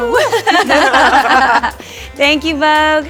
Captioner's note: all laugh